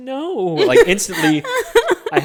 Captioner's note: laughs